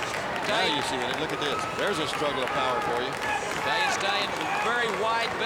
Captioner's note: crowd chatter